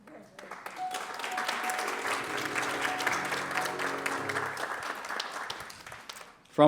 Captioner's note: applause